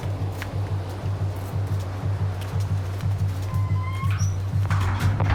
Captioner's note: increased intensity of heartbeat